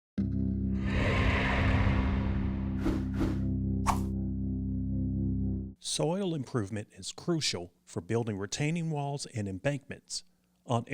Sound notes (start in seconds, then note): 0.6 dramatic music; 3.1 logo whooshing; 3.1 text whooshing